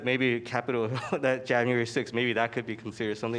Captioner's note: laughter